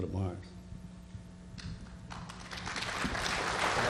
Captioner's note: applause